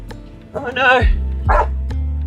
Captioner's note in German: Hund bellt